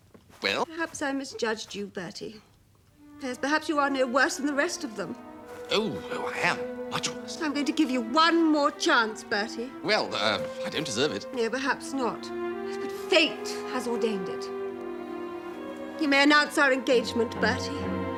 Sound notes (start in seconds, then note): none